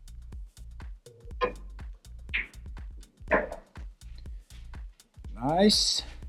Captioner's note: billiard balls clanging